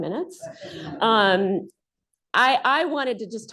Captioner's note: laughter